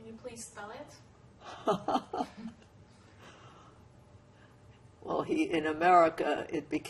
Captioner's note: laughing